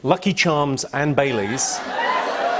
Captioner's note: cheers and applause